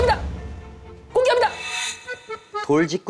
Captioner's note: thump thump